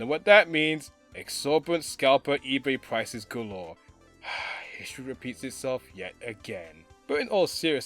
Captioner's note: sigh